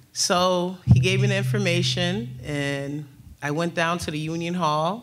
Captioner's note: none